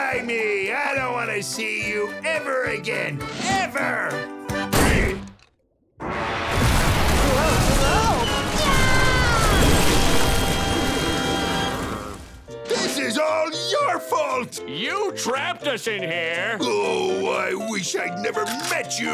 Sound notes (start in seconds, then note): 4.7 doors slamming; 7.7 screaming